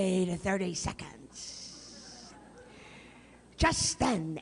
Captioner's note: laughter